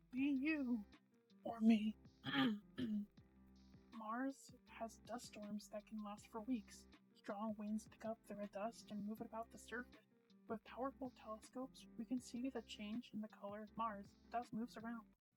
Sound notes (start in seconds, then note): 2.2 clears throat